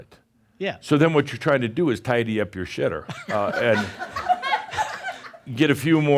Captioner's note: some laughter